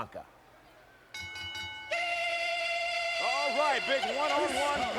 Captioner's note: bell ringing